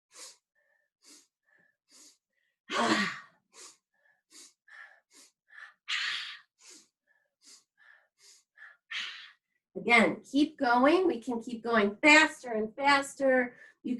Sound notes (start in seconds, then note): 1.0 inhaling; 1.5 exhales; 4.0 inhaling; 5.7 exhales; 6.9 inhaling; 8.8 exhales